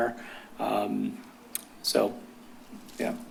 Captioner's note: clicks tongue